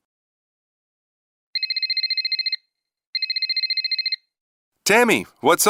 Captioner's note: cell phone rings